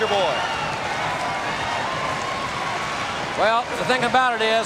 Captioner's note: audience cheering